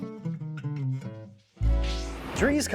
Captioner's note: whoosh